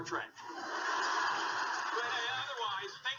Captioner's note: audience laughing